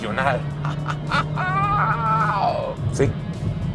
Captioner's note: exclamation of excitement